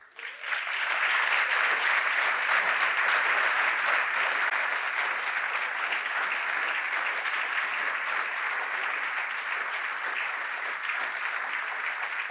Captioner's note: applause